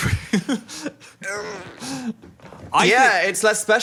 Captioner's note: laughs